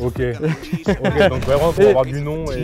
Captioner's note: laughs